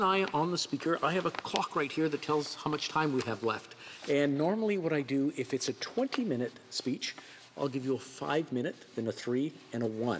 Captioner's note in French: voix de l'interprète